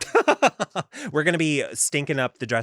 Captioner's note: laughs